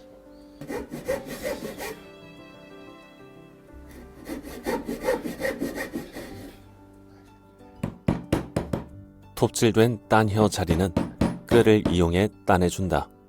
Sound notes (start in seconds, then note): 0.6 sawing sound; 7.8 hammering sound